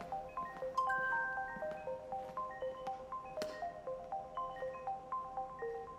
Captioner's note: graphics chiming; buoyant music continues